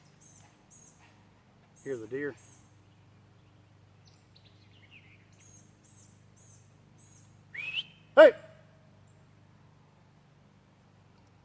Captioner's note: shouts